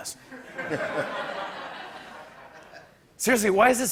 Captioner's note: laughter